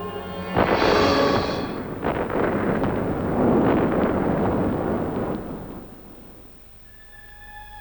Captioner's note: explosion